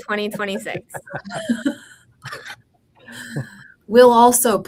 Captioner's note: all laughing